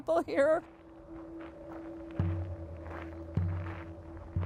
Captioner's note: footsteps; country music